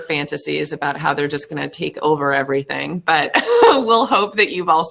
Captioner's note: laughs